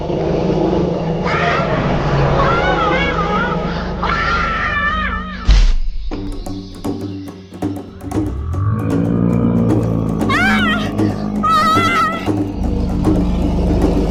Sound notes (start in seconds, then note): 0.2 dinosaur growling continues; 1.2 Mika screaming; 6.2 drumbeat music continues; 10.3 Mika screaming continues; 13.9 dinosaur growling continues